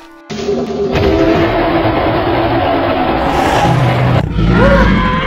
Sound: dinosaur continues roaring loudly

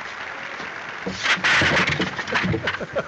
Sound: clattering; laughing

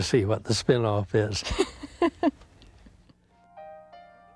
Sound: both laughing; relaxed piano music

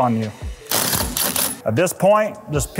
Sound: driver whirring

